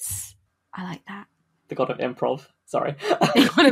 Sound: laughing; laughs

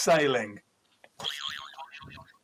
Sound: boing

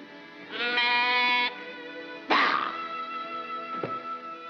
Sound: bleet

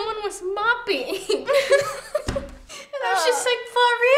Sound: laughs

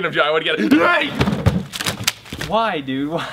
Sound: bottles clatter

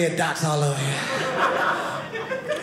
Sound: audience laughing

